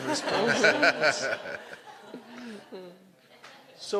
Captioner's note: laughter